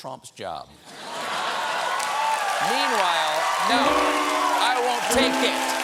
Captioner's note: cheers and applause